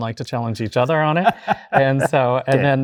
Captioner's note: guy laughs